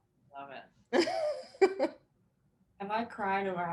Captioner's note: chuckling